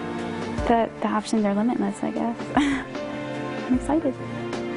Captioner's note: laughs